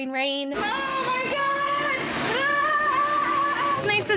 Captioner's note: screaming